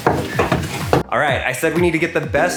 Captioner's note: footsteps thumping; upbeat music